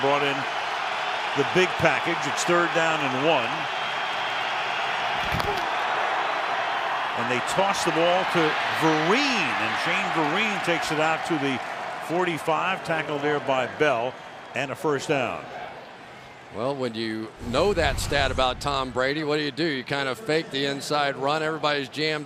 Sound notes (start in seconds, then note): 4.6 crowd cheering